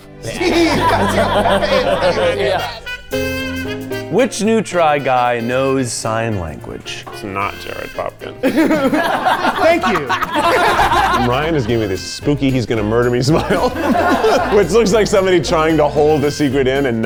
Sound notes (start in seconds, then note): 2.5 jovial music; 7.4 all laughing